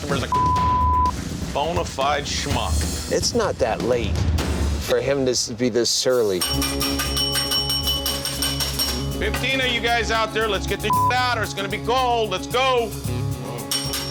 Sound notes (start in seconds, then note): 0.2 beep; 6.4 bell ringing; 10.8 beep; 13.7 bell ringing